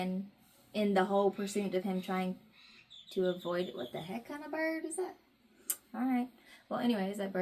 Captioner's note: bird squawks outside